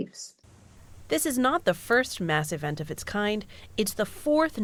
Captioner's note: voice-over